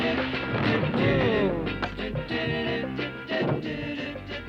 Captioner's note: crashing